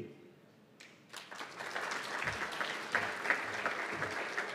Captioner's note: applause